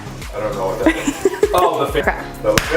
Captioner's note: laughing